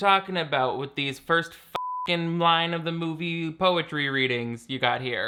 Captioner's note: beep